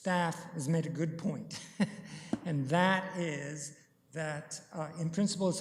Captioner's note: chuckles